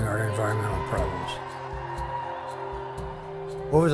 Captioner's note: people yelling